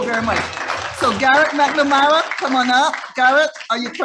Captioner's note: audience applauding